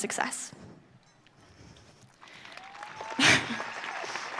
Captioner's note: audience cheering